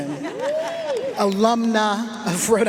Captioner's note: audience laughing and cheering